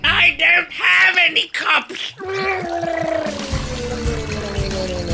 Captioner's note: guzzling; lawnmower sounds